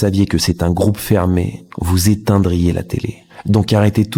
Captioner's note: french dialogue continues